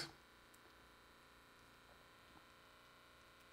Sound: blood pressure monitor makes humming noise

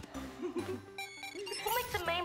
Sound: beeps

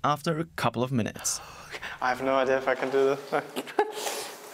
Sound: laughs

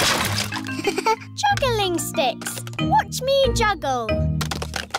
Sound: chuckles

